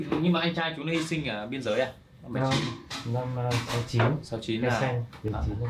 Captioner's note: speaking in foreign language